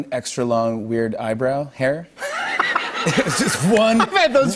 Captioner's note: laughter